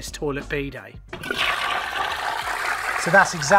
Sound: fast flush

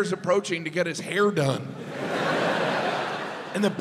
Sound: audience laughs

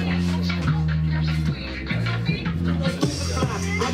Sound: people chatting; upbeat music

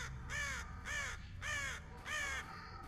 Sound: cawing

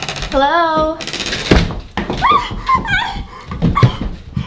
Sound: muffled screams

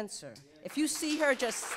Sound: audience applauds

